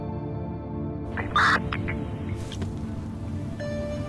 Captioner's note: radio squelch